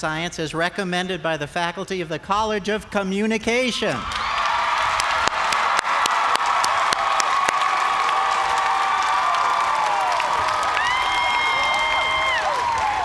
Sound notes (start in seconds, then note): 4.0 cheers and applause